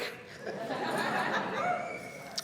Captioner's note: laughter